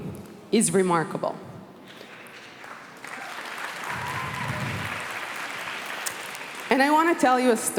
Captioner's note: applause